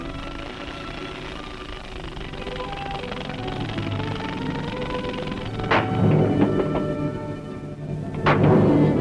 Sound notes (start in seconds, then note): 5.2 loud pounding